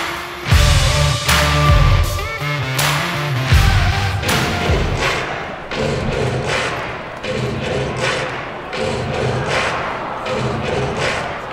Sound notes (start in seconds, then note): 4.8 crowd cheers and claps